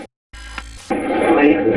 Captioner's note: static fizzing